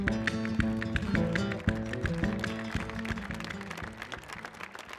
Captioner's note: audience applauding